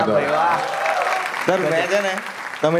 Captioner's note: crowd applauding